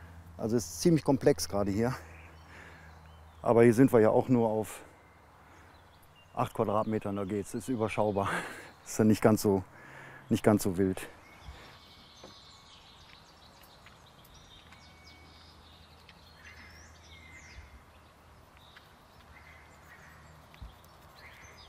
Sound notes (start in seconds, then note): 12.7 birds chirping; 18.5 frogs croaking